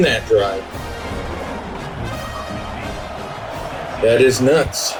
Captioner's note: crowd Noises